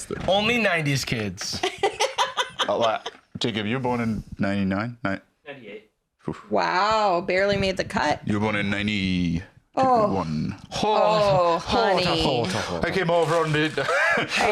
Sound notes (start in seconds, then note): 1.6 laughs; 10.0 wearily; 13.8 laughs